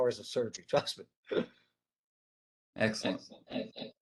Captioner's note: chuckles